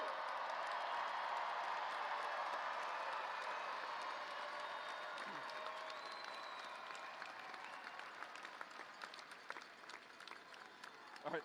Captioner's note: cheers